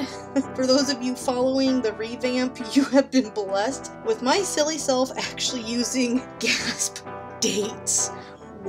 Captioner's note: gasp